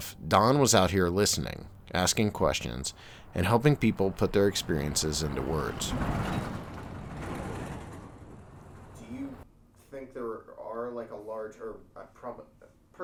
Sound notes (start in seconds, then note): 5.9 truck rattling